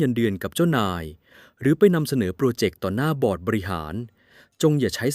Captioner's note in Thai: เสียงสูดหายใจ